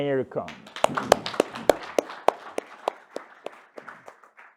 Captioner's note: audience applaud